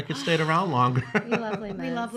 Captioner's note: laughing